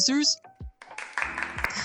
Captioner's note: clapping